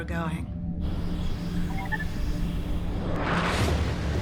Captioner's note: engine runs, machine chirps